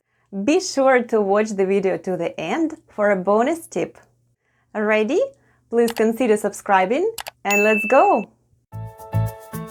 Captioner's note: click & ding sounds